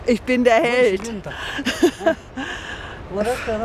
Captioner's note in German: Lachen